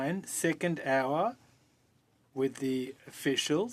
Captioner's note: speaking French